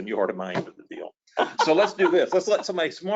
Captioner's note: laughs